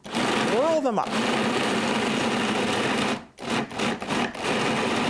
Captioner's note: blender pulsating